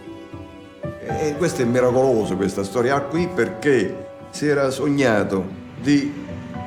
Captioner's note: speaks in foreign language